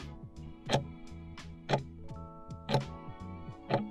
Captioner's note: timer ticking